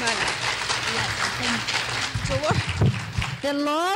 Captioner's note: clapping